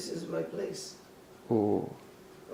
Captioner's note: ohhh